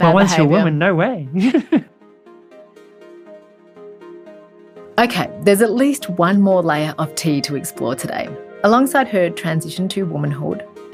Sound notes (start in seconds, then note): 0.0 laughs; 3.4 gentle music; 4.8 voiceover